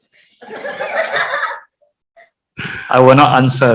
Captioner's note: audience laughs